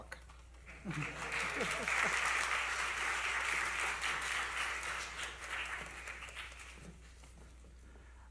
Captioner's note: applause